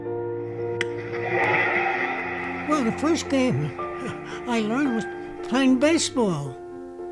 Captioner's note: wistful piano music; crowd cheers